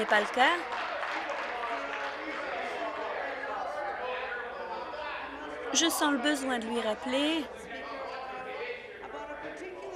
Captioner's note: applause